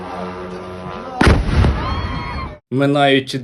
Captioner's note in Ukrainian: вибух